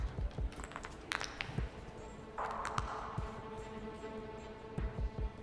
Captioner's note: cracking knucles